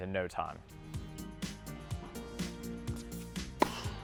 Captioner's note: racket Hitting Ball